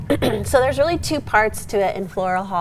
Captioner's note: clearing throat